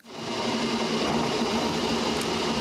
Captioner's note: loud engine noise